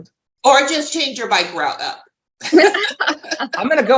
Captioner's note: laughing